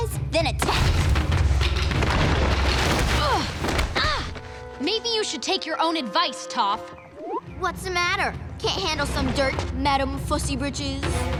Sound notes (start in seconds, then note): 3.1 grunting